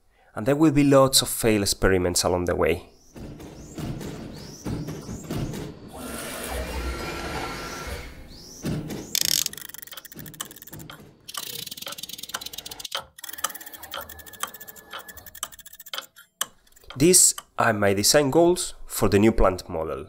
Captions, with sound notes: and there will be lots of failed experiments along the way. [mechanical sounds] These are my design goals for the new plant model.